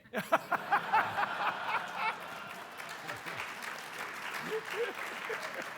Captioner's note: audience laughing and applauding